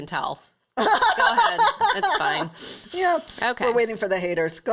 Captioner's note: laughs